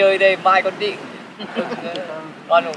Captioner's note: laughter